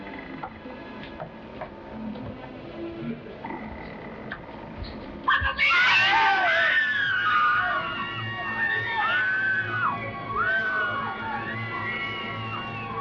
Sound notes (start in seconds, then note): 0.4 bridge creaking; 6.2 everybody screaming; 7.4 dark dramatic music